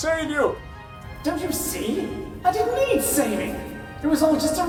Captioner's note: Aspedeirdre on ship's speaker